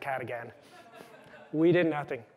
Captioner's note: laughter